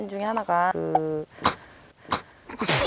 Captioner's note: choke